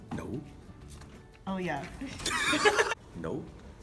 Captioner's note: laughter